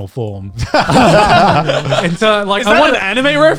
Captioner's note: guys laughing